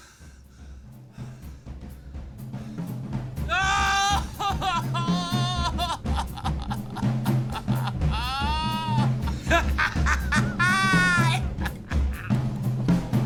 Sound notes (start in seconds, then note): 3.7 Merrill 2 sobs; 9.3 Merrill 1 laughs